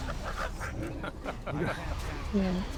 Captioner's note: laughing